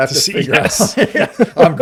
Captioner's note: laughs